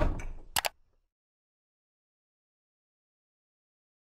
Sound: mouse clicks

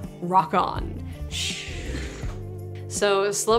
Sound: mimics air whooshing

